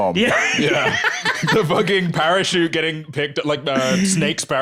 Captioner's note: laughing